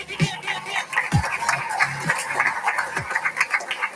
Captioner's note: applauding